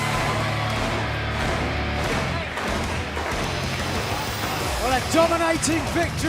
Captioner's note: crowd cheering